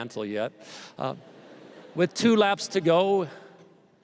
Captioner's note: laughter